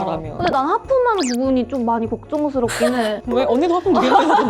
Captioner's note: sobbing